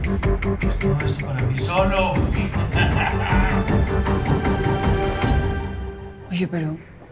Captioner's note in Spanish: Ríe